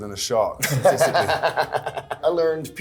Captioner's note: Miles laughing